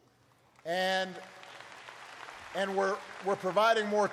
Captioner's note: applause